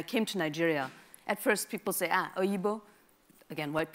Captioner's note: speaks in a foreign language